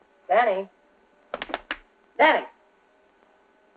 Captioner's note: slapping